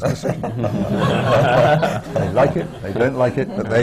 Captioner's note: laughter